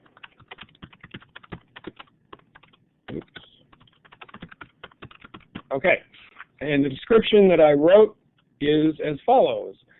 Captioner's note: typing